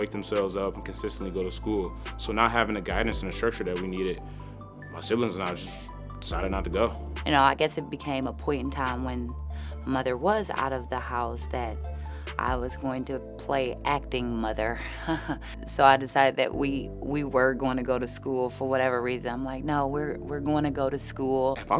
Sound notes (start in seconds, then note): 14.8 chuckles